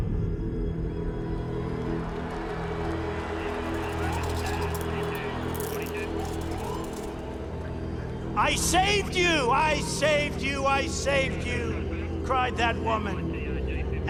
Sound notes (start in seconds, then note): 1.0 cheers and applause; 3.5 handcuffs locking; 6.4 siren blaring